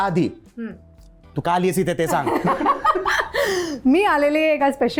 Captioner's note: laughs